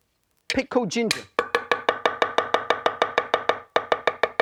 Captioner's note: chopping